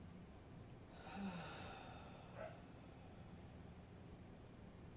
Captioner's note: sighing